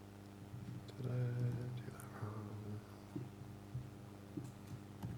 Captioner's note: mumbles to himself